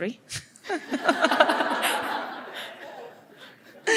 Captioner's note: laughter